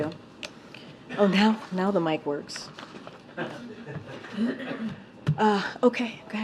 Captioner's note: laughter